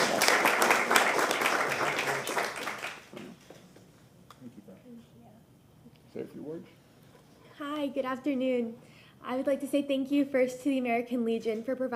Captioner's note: applause